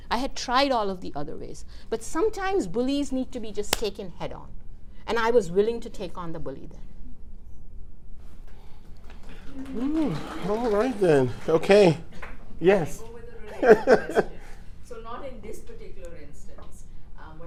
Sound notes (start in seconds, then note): 9.0 clapping; 13.5 laughs